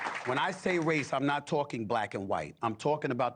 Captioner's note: applause